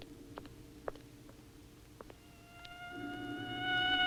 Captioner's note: siren wails